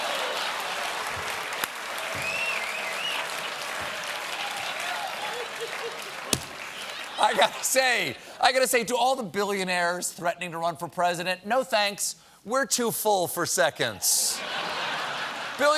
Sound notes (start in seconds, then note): 0.0 cheers and applause; 0.8 rim shot; 14.2 laughter